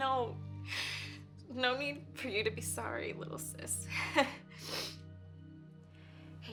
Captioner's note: laughs